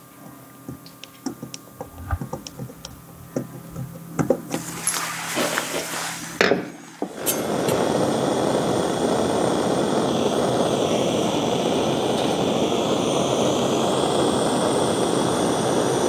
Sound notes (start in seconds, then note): 4.5 rustling; 7.4 hissing